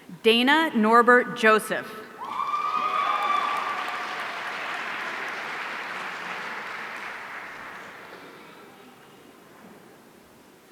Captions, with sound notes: Dana Norbert Joseph. (audience cheering)